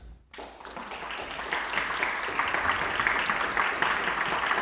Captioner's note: audience applauding